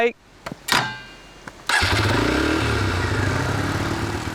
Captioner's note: sound of motor starting